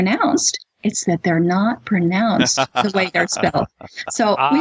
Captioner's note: laughter